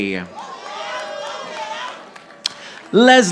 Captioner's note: audience applauding